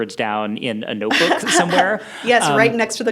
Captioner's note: laughs